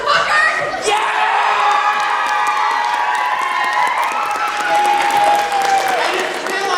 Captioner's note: cheering